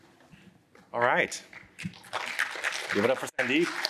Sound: applause

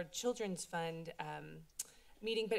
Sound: clicks Tongue

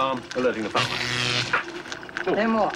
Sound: electricity buzzes

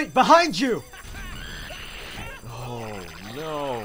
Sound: headcrab screeches

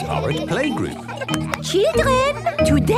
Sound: clapping

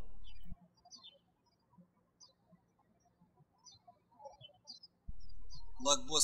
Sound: birds chirping

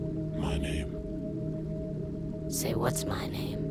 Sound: low Voice

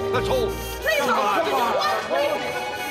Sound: all shout

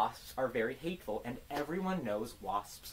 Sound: clap

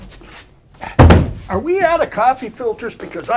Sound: cabinets close

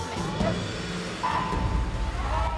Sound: starting klaxon

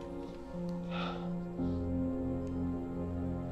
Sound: sighs

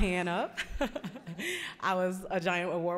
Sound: chuckling

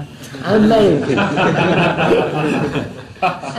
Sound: laughs; laughter

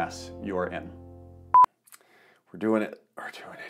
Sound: video beeps

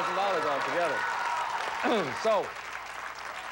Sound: audience applauding

